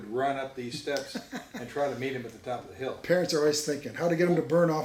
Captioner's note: laughs